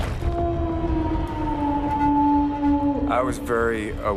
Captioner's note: howling